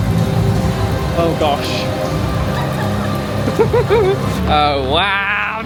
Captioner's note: chuckles